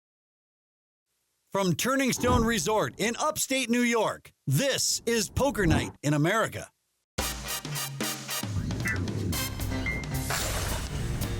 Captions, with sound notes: - [Voiceover] From Turning Stone Resort in upstate New York, this is Poker Night in America. (upbeat instrumental music)